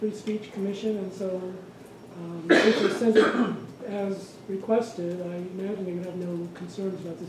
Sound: coughing

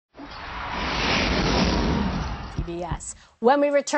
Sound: swooshing sound effect

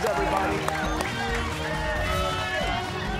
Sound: cheers and applause

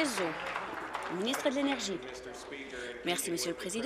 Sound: applause

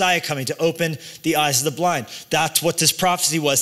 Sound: none

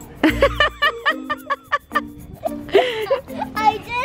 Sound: laughs

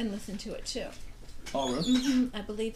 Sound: voiceover

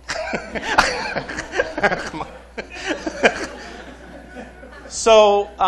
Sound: laughter

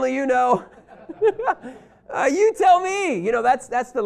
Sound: laughter

